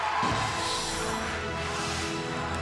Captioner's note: bell ringing